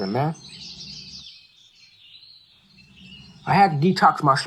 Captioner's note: birds chirping